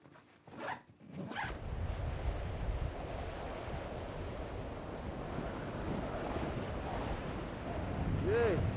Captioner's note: hard wind blowing